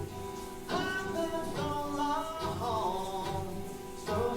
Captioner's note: shower tap running